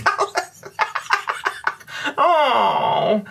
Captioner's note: laughter